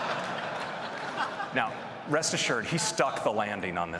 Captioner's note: laughter